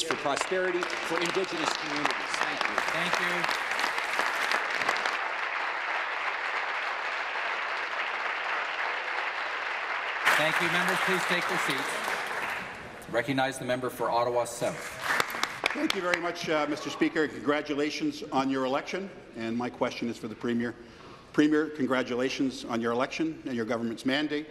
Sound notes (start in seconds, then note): 6.2 applause